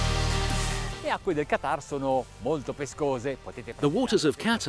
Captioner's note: speaks in foreign language